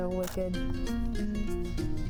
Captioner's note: camera clicks; upbeat music